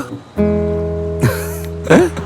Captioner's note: laughing